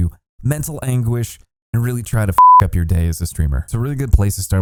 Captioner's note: beep